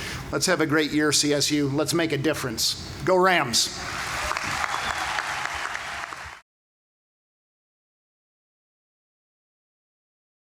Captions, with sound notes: Let's have a great year, CSU! Let's make a difference. Go Rams! (Applause)